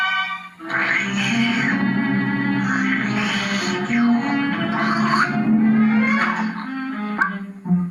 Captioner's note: slurping